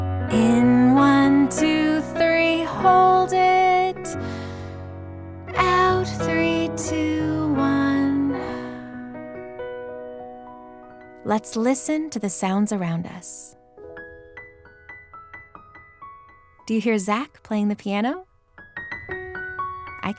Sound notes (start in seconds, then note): 8.4 exhales; 13.4 light piano music